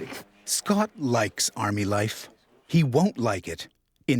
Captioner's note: voiceover